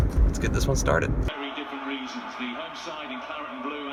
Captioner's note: voiceover